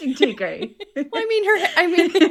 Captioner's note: laughter